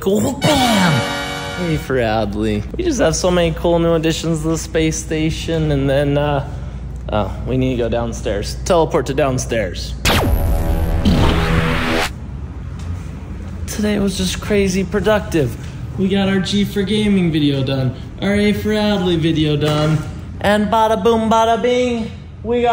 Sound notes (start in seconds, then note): 10.0 electronic sounds